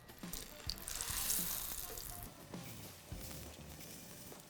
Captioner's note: burgers sizzle